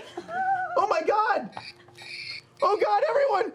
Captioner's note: squealing